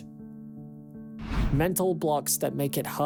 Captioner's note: screen swishes